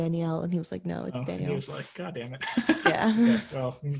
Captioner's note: laughs